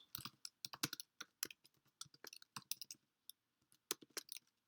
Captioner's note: keyboard clicks